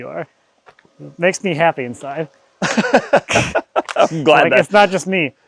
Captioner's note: laughing